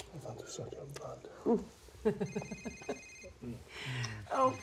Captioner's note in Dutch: telefoon gaat